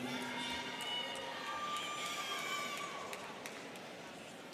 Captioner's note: students cheering